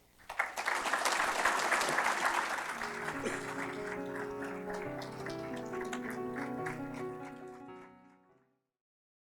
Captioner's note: applause - Music